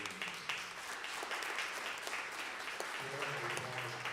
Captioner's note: applause